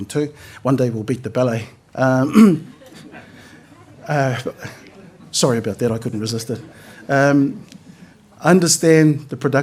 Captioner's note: laughter